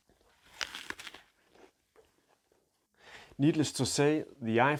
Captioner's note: crunches apple